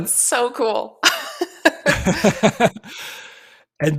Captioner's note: laughter; laughs